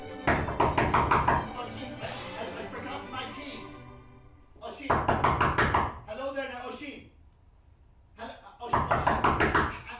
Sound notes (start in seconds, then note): 0.2 knocking; 4.8 knocking; 8.7 knocking